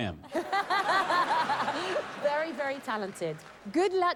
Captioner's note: laughter